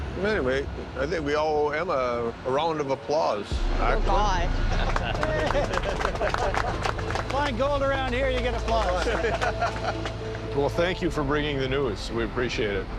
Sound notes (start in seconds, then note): 4.8 applause; 8.8 laughter